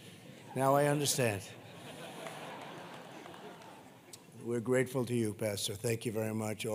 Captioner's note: laughter